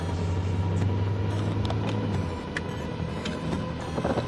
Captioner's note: glitch effects